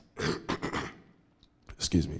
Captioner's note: coughs